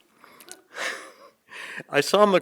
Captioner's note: chuckles